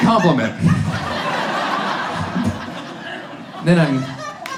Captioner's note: audience laughs